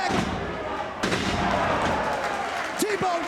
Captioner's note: spectators exclaiming